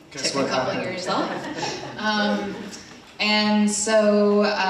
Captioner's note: attendees laughing